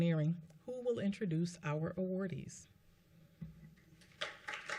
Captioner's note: applause